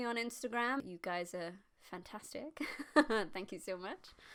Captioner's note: laughs